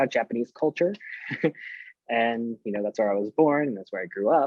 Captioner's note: chuckles